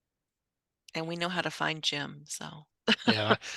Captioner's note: laughs